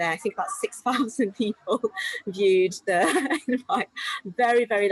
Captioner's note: chuckles